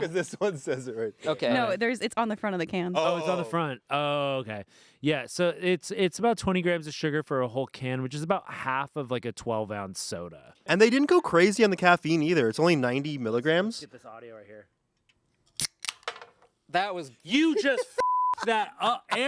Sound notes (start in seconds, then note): 15.6 glass rattles; 18.0 beep